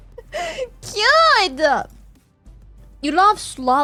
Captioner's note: laughs